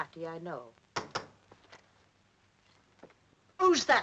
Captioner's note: door knocks